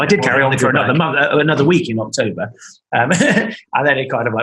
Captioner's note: laughing